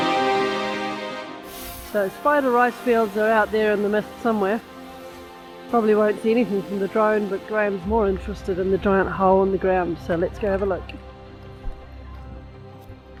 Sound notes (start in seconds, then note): 4.5 drone whirring